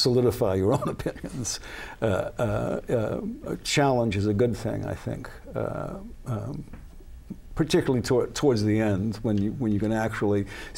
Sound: laughs

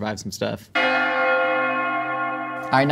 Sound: bells Ringing

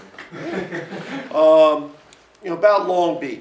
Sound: laughter

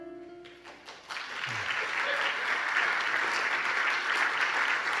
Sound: audience applauding

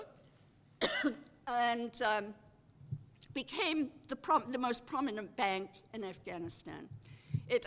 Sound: cough

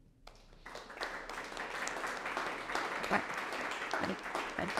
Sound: audience applauding

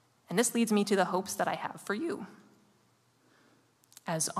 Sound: none

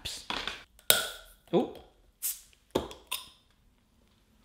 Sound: bottle cap popping

